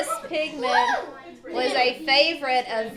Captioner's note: students laughing